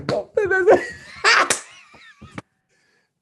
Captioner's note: laughing out loud